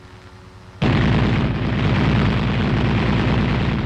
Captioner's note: machine gun firing